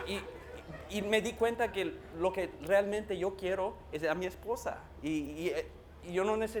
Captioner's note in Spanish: Risas